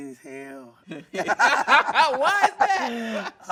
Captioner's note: everyone laughing